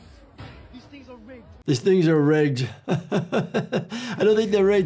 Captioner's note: laughing